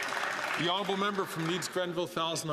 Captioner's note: some Applause